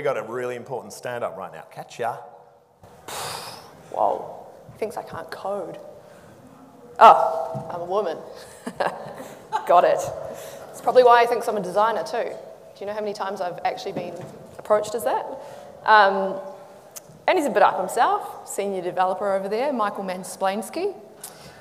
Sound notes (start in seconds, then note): 3.0 exhales; 8.4 laughs